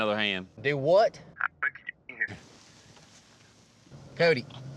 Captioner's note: cell phone breaks up